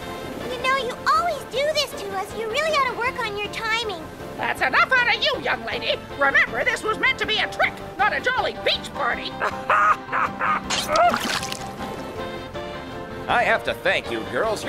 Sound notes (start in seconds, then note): 9.3 laughing